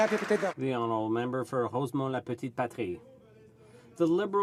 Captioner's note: some Applause